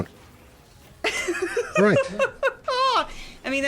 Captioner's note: laughs